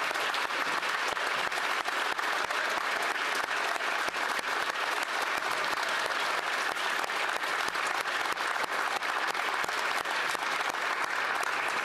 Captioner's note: some Applause